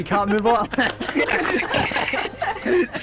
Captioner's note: applause and laughter